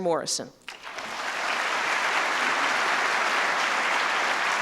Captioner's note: applause